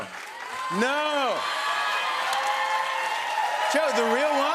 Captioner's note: cheers and applause